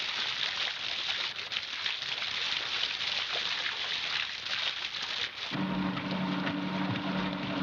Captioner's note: loud engine